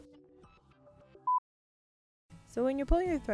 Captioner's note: beep